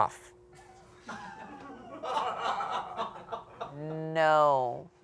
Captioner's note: producers laugh